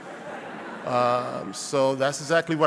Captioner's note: audience laughing